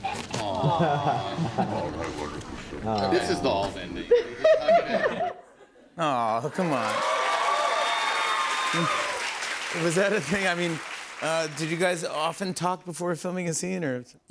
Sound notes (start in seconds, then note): 4.1 laughter; 6.6 cheers and applause